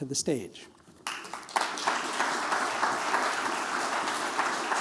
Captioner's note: applause